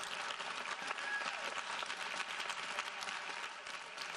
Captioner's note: audience applauding